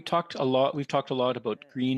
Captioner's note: speaking French